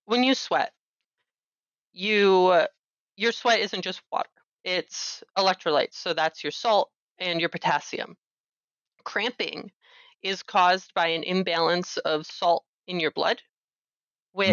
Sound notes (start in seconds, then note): none